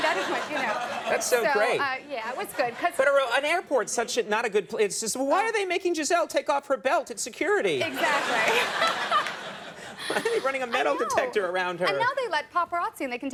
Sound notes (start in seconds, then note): 0.0 audience laughing; 7.8 audience laughing; 9.8 Amy laughing